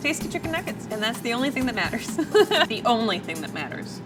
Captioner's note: laughs